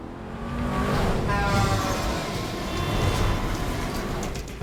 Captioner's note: cars rev; car whooshes; car horns honk